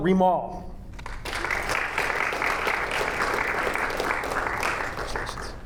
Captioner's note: audience applauding